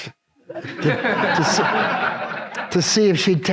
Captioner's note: audience laughs